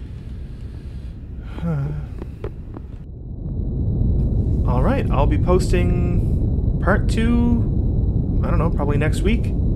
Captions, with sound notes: (sigh) Alright, I'll be posting Part Two ... I dunno, probably next week?